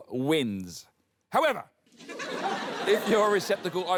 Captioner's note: laughter